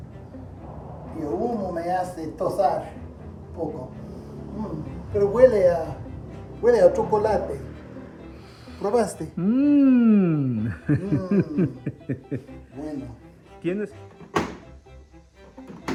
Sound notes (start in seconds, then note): 9.3 laughs